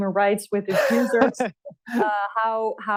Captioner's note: laughs